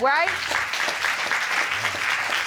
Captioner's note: applause